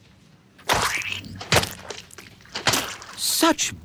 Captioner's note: splat!